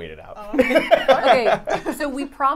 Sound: laughing

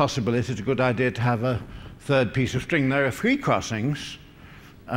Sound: none

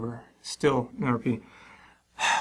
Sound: sigh

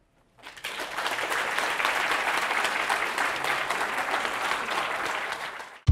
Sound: applause

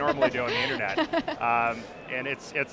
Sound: laughs

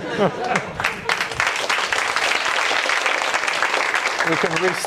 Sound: applause

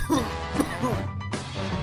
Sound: cough

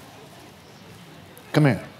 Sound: laughs

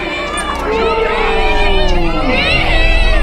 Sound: people yelling

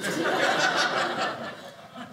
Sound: audience laughing

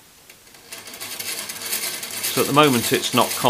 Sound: gears rattling

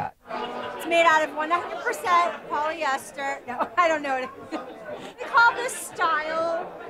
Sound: laughs

